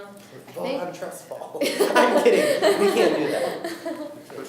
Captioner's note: laughing